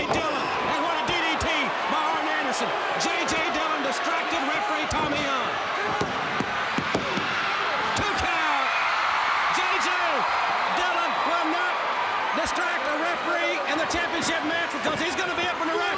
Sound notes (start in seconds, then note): 2.9 crowd cheering; 6.4 crowd cheering; 8.8 crowd cheering